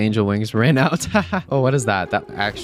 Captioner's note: laughs